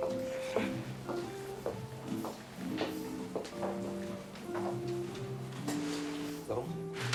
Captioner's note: footsteps clacking; mellow music continues